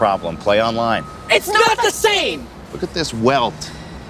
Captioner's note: boy and girl shouting